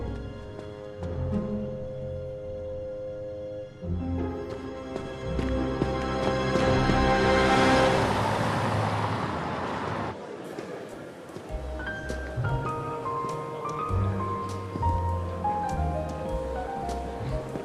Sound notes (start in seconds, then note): 8.0 cars swooshing; 11.5 jazzy piano music